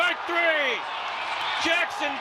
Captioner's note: crowd cheering